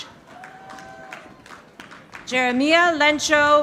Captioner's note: audience applauding